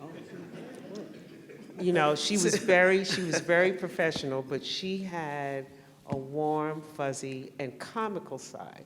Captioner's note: laughter